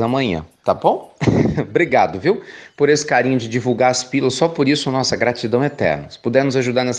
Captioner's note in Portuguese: Risos